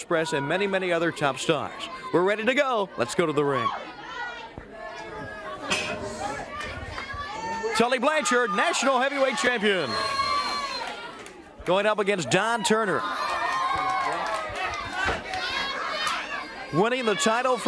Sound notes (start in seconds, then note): 5.4 crowd chatter; 7.0 bell ringing; 17.4 crowd cheering